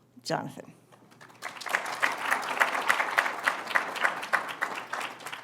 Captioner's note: applause